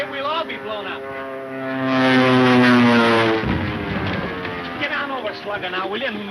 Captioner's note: airplane engine roaring